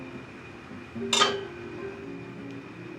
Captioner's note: clang